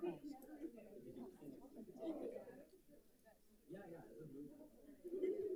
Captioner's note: group chattering